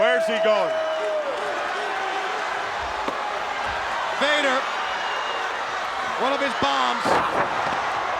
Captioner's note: applause